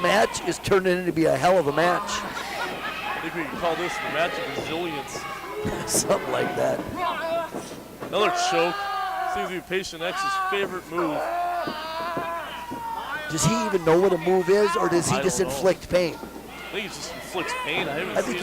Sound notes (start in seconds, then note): 8.1 yells; 11.0 yell